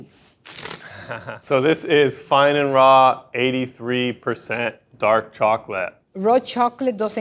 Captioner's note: chuckles